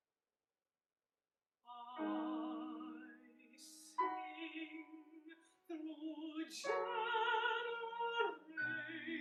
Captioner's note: whale song